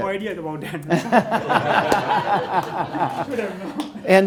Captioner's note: others laugh